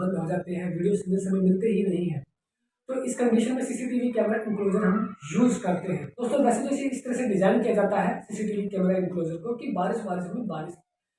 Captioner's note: power fluctuation and earthing